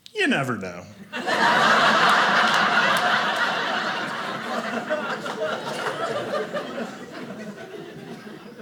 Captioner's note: audience laughing